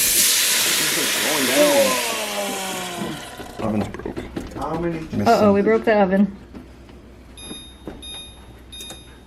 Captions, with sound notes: - Uh oh! We broke the oven! [oven tones]